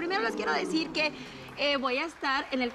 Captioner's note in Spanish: Exclamaciones